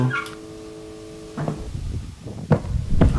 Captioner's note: footsteps